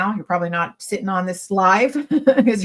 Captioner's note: laughs